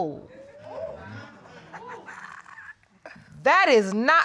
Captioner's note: audience exclaiming; laughing